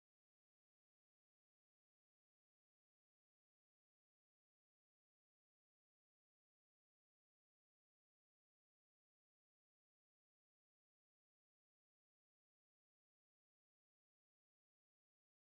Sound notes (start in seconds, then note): none